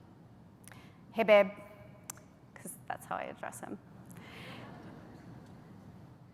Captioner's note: faint laughter